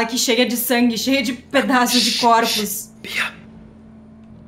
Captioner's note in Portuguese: sussurrando